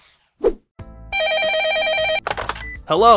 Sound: phone ringing

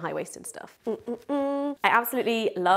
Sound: humming

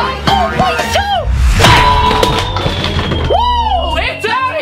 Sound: dramatic music; loud crash

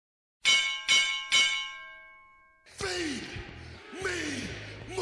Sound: bell ringing

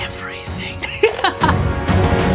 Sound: laughter; dramatic music

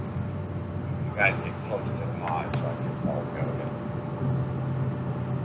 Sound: speaking over the radio

